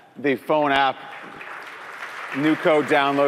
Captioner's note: applause